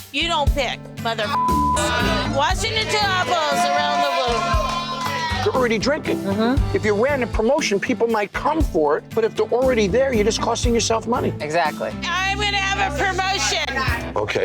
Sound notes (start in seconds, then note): 1.3 beep; 5.0 bar cheering